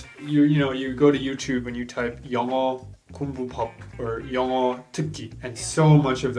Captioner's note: speaks foreign language